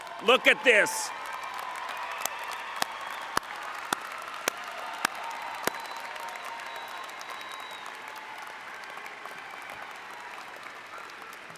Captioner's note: cheering